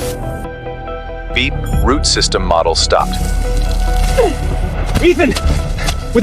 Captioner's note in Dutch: piep